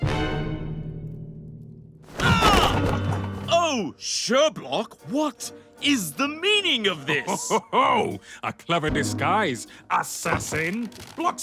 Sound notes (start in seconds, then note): 2.1 LeFraude shouts; 7.1 Sherblock chortles